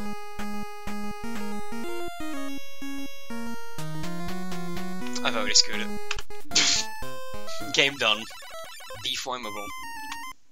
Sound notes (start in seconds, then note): 6.5 laff